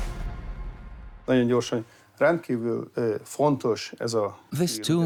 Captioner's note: in Hungarian; dubbed in English